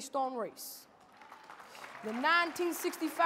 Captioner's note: audience clapping and cheering